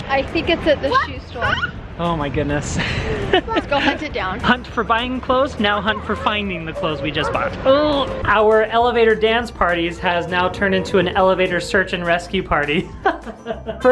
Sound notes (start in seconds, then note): 2.8 laughs; 7.8 groans; 13.3 laughs